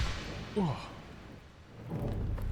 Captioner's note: Skull grunts